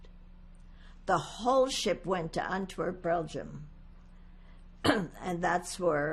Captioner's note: clears throat